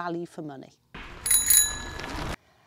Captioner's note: bell Ring